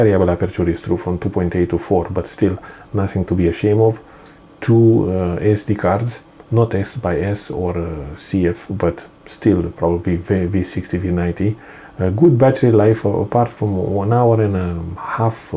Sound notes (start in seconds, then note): none